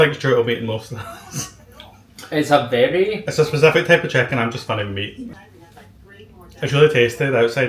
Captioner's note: laughs